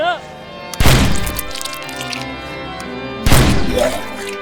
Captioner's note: rifle banging